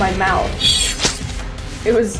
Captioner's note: knife slashing